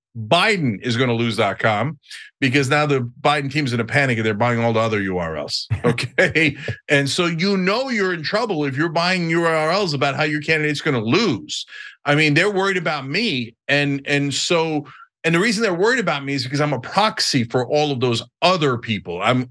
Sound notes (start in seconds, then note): 5.7 laugh